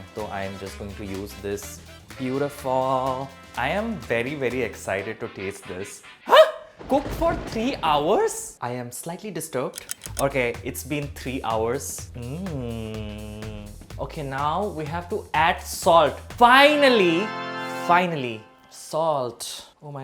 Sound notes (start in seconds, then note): 9.7 ticking sound